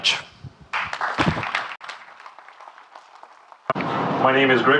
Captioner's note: audience clapping